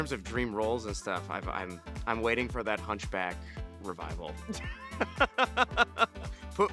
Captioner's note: chuckles